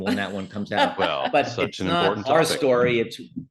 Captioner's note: laughing